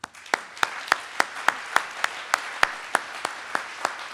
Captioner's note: audience applauds